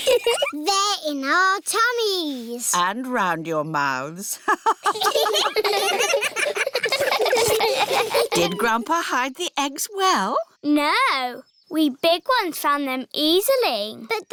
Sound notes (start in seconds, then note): 0.0 giggles; 4.4 all laughing; 4.4 laughs